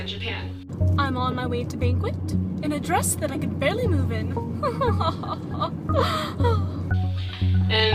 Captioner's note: laughter